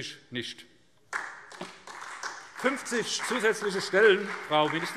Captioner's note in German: Beifall SPD